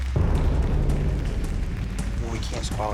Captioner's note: applause; tense music